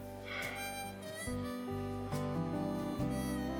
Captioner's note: Tom sighs; pensive music